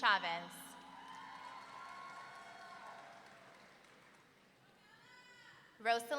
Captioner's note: audience cheering